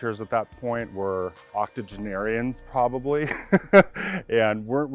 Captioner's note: laughs